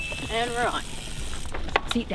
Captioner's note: wheels whizzing